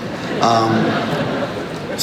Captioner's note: crowd laughs